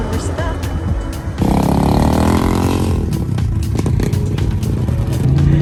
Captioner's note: engine